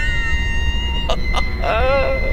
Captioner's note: chuckles